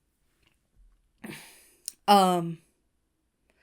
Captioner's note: Hana exhales